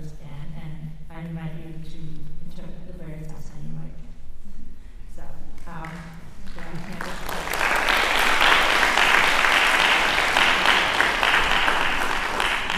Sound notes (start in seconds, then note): 6.4 applause